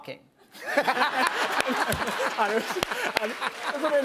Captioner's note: laughter